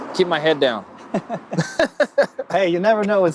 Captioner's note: laughs